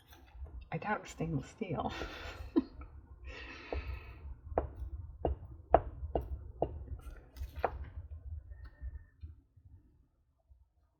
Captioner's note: laughs